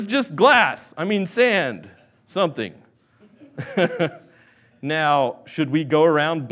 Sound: laughs

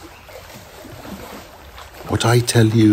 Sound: water lapping

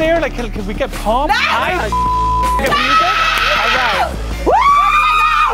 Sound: both screaming

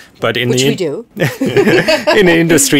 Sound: laughing

